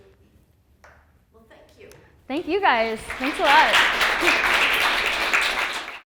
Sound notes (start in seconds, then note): 1.0 voiceover; 4.4 clapping